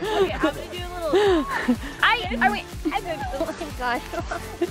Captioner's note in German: lacht